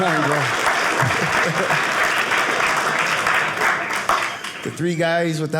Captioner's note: audience clapping